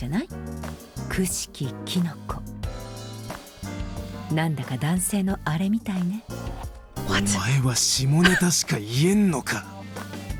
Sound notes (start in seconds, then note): 6.8 whispers; 7.0 scoffs